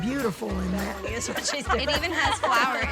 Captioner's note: everyone chuckles